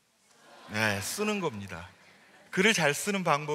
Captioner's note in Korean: 웃음